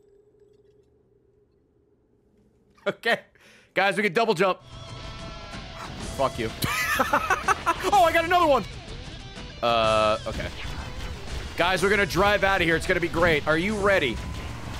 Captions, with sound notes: Okay. Guys, we can double jump. Frick you. (laughs) Oh I got another one. Uh okay. Guys, we're gonna drive out of here, it's gonna be great. Are you ready?